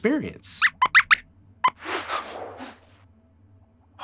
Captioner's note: squeaks squeaks